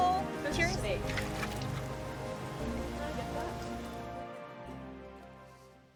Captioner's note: water splashes